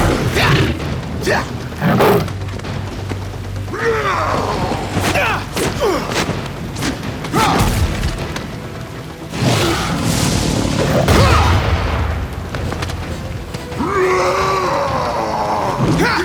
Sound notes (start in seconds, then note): 0.0 grunts; 3.7 roars; 5.0 grunts; 13.7 roars